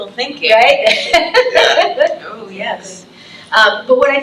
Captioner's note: laughs